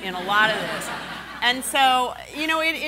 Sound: laughing

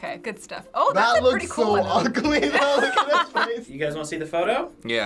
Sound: laughing

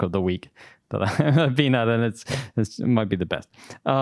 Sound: laughs

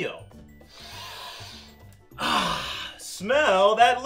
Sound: sniffing

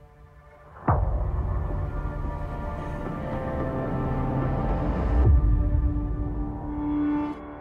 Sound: echo

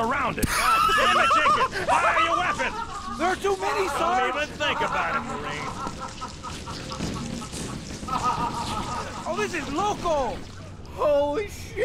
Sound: laughs

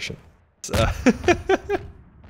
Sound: laughs

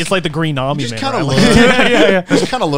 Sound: all laughing

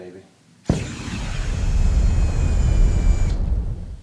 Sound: flame thrower sound

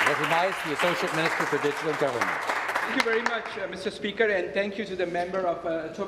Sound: some Applause

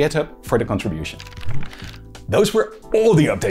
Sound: pages flipping

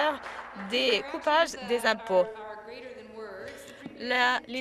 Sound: some Applause

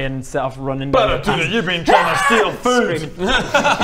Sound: aaaaaaaaaargggghh!!

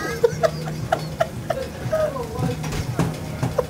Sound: laughing

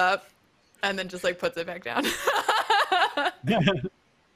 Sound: laughs

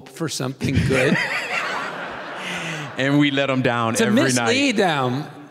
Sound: laughing

